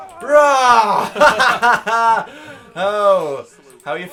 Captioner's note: laugh